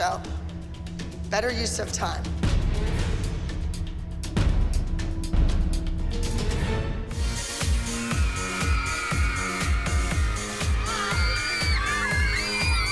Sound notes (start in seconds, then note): 4.0 dramatic music playing; 7.8 girls screaming; 9.6 upbeat rock music